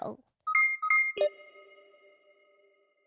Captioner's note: device beeping